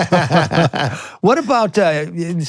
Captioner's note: both laughing